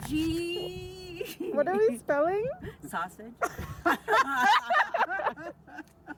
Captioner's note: laughs